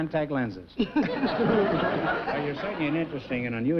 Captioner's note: chuckling